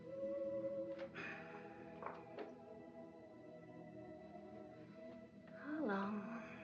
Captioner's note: Mama sighs